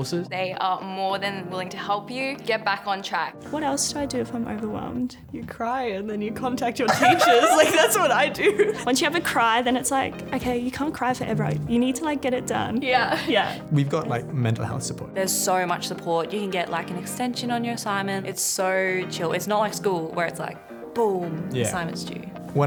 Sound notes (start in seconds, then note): 6.8 laughter